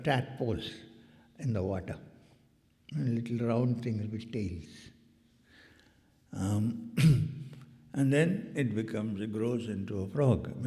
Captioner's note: clears throat